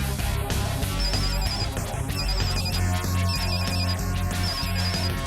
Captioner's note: phone ringing